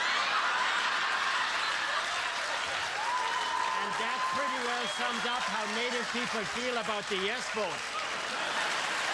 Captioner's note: laughter